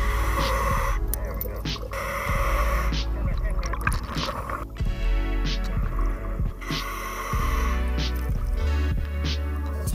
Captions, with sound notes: - There we go. (breathing) Turn that tank on. (upbeat music) (breathing)